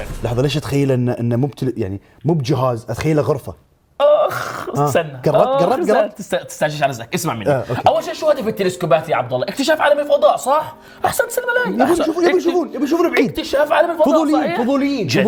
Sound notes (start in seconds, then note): 4.0 groans